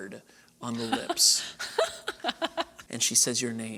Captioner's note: laughter